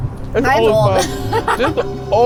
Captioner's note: laughs